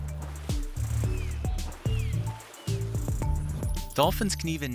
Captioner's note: dolphin chirping